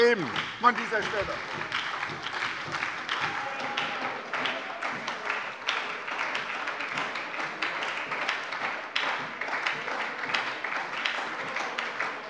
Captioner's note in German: Beifall bei der SPD